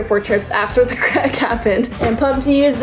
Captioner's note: laughing